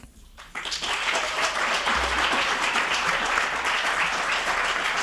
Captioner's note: audience applauding